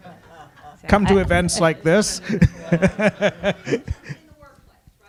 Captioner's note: audience laughing; laughs